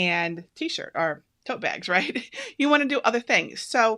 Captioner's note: laughs